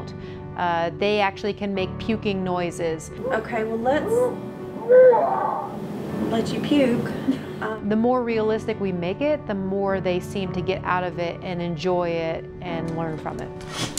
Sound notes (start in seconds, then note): 4.6 mannequin makes a puking noise; 7.2 laughter